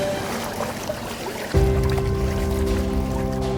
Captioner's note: water sloshing